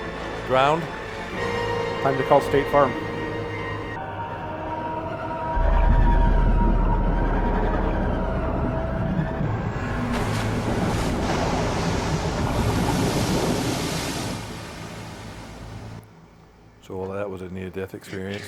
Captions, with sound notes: Ground? Time to call State Farm. [explosion] So all that was a near-death experience?